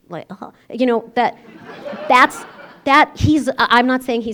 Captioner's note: laughter